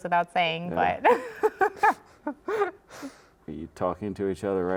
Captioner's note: laughing